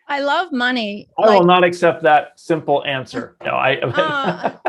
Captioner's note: laughing